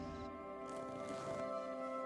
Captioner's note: zipper zips